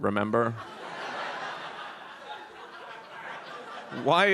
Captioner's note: audience laughs